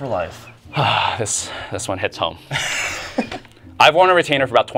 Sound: sighs

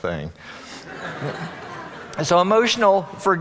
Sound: audience laughing

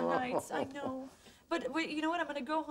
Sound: moaning chuckle

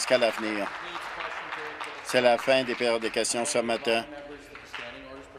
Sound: applause

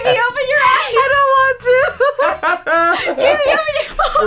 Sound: laughs

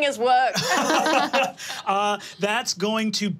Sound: all laughing

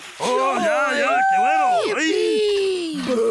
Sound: cheering; speaking foreign language

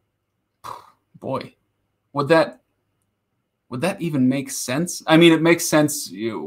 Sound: sighs

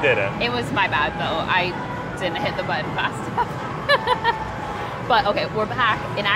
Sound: laughs

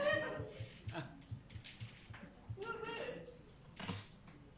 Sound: group chatter

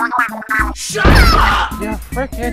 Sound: Inkling gibberish; Inkling noise

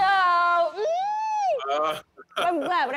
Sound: laughs

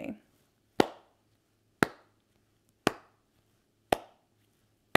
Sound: claps slowly

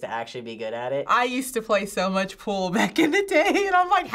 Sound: laughs

